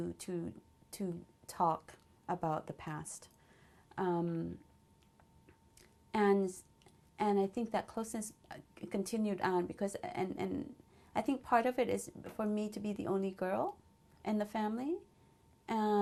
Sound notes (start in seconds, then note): 3.0 pauses for 3 seconds